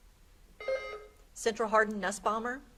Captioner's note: beep buzzing